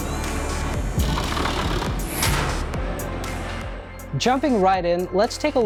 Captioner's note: upbeat music; logo spinning and banging